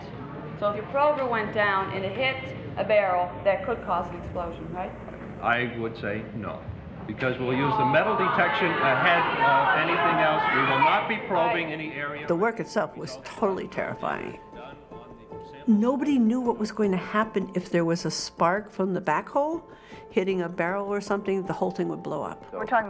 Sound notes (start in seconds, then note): 7.7 audience clamoring